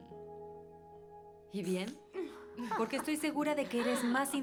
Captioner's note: laughs